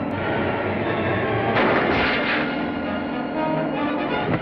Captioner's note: gunshot